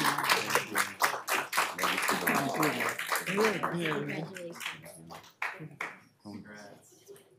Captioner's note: applause